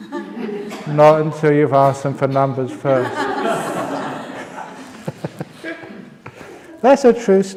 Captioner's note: laughs; laughter